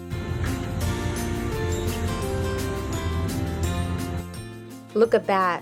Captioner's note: machine whirring